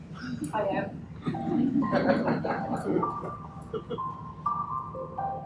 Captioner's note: audience laughs